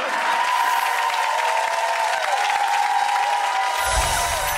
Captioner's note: applause